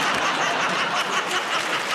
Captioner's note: laughter